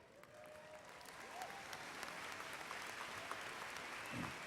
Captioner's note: applause